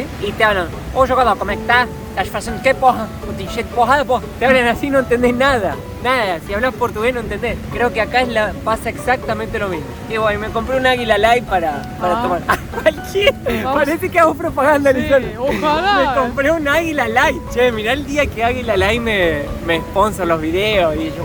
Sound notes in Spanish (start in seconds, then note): 1.0 en portugués